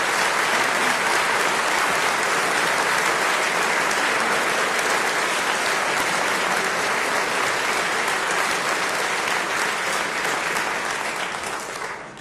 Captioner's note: applause